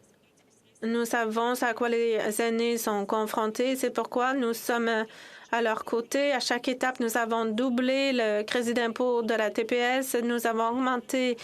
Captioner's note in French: voix de l'interprète